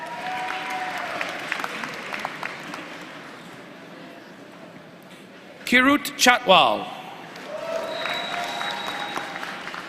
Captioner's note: applause